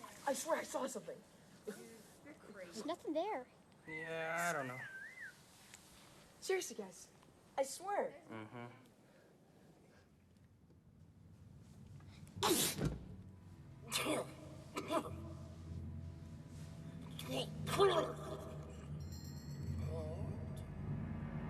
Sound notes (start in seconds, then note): 12.3 coughing; 12.4 sneezes; 16.2 blubbering